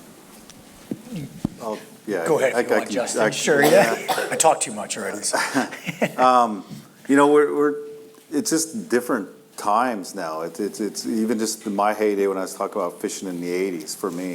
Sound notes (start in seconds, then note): 5.6 laugh